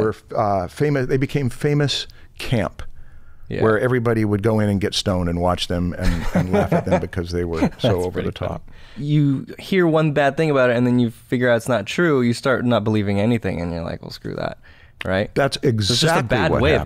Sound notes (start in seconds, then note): 6.0 laughter